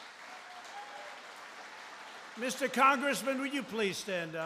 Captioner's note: applause